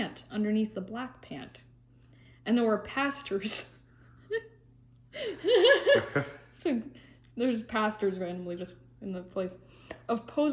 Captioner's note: laughs